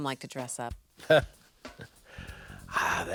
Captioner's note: laughing